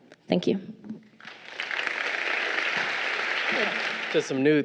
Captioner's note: crowd applauding